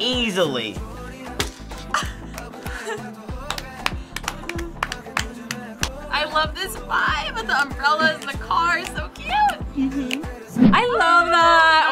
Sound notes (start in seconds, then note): 1.6 upbeat music; 1.8 laughs